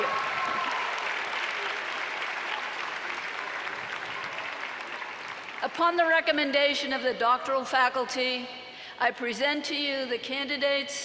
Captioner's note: applause